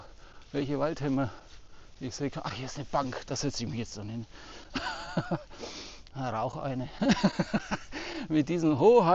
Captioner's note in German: gelächter